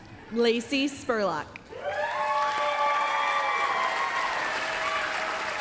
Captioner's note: applause, cheering